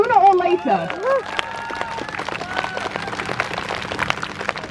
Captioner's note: crowd Cheers